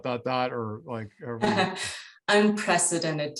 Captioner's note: chuckles